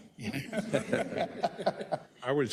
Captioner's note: laugh